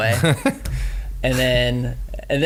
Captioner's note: laughing